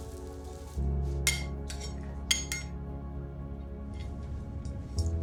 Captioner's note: spatula clanking